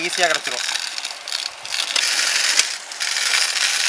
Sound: grinding

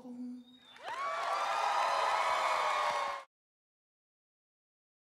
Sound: cheering, applause

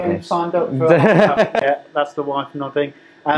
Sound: laughing

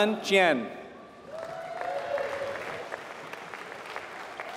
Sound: applause

